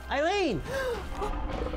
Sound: spooky music; gasps

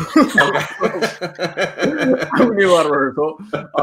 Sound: all chuckling

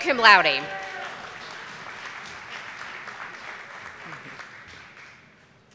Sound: audience applauding

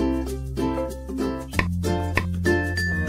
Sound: tap x2

